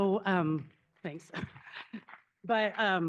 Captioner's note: crowd applauding